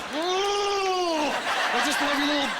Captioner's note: laughing